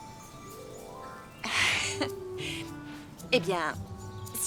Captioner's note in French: rires